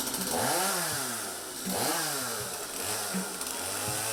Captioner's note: chainsaw revving